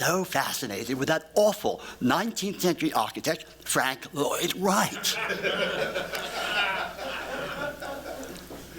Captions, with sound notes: fascinated with that awful 19th century architect Frank Lloyd Wright. [laughter]